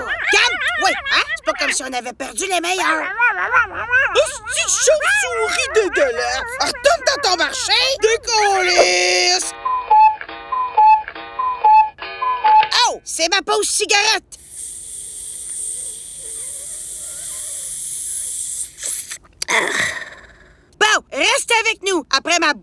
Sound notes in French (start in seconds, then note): 9.5 Bruits d'horloge coucou; 14.3 Aspirations infinies de cigarette